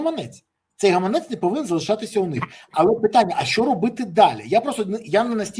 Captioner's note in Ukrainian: сміх